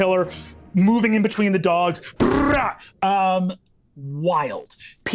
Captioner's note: rolls tongue